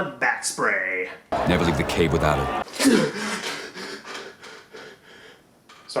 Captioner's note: gasp!